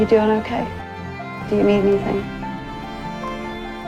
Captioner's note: voiceover